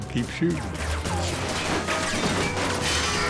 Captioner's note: metal clanging; bullets ricocheting